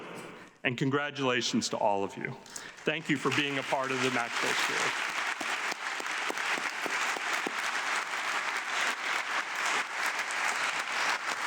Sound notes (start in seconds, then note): 5.0 audience clapping